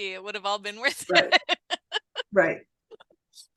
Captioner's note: laughs